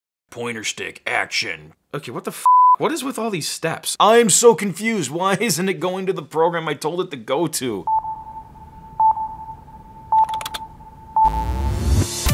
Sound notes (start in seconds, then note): 7.8 beeping; 10.2 typing